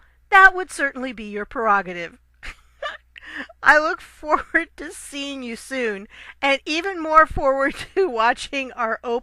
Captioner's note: laugh